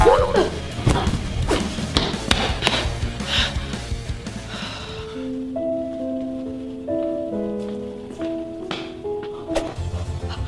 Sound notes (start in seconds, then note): 0.2 bouncing; 4.5 sighing deflatedly; 4.6 melancholy music playing